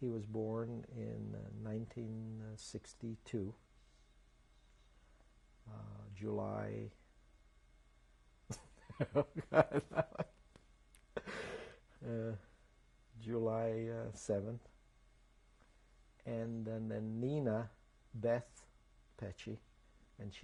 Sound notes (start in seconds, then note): 3.6 pauses for 3 seconds; 12.2 laughs